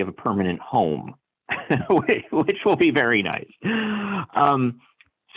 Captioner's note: laughter